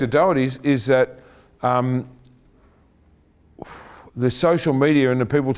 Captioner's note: exhales